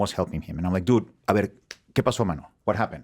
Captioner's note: speaking Spanish